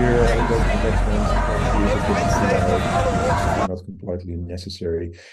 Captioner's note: crowd cheering; crowd chattering